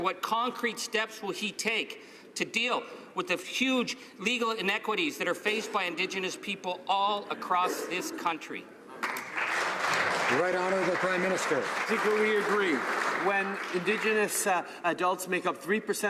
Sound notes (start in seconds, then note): 13.6 some Applause